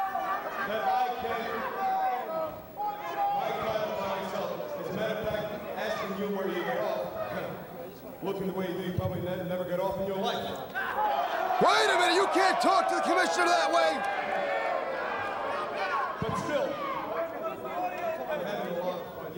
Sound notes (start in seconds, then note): 14.6 crowd chatter